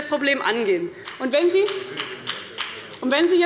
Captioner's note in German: Beifall bei Abgeordneten des BÜNDNISSES 90/DIE GRÜNEN